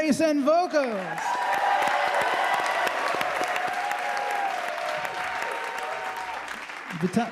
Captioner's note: audience cheering; audience applauding